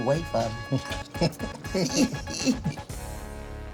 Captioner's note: laughter